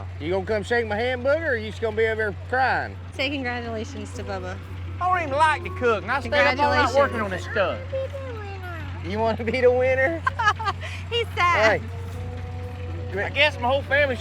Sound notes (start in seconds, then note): 9.3 laughs